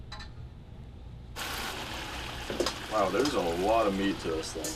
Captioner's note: sizzling